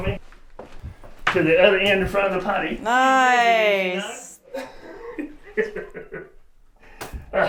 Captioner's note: laughter